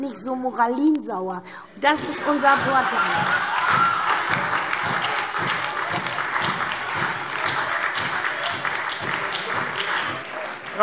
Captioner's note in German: Heiterkeit und lebhafter Beifall SPD, Freie Demokraten und DIE LINKE